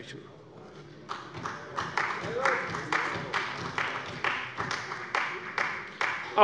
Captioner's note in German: Beifall bei der CDU und dem BÜNDNIS 90/DIE GRÜNEN